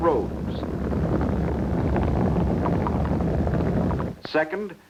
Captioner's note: car rumbling